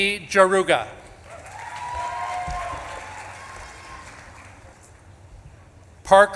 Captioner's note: audience claps and cheers